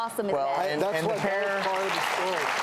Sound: applause

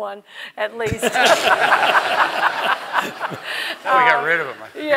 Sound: laughter

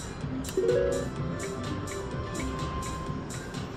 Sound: machine beeps

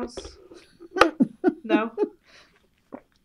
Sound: laughs

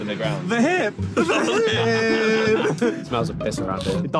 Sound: all laughing

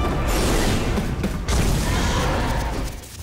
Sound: screeching

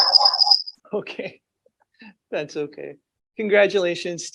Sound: camera feedback

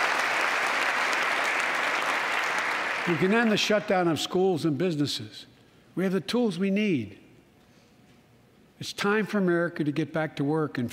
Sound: applause

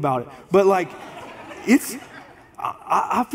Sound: congregation laughs

